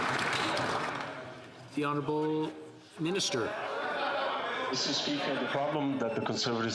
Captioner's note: some Applause